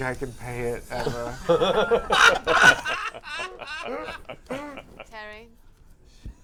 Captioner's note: laughter